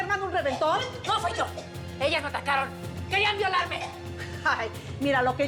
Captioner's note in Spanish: la otra tose